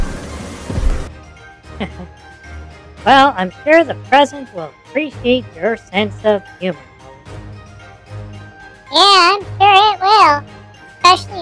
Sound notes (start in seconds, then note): 1.8 laughs